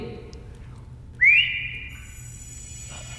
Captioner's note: whistles